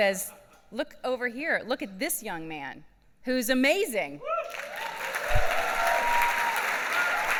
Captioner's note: claps